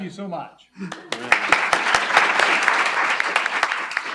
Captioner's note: applause